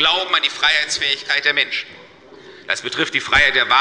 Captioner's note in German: none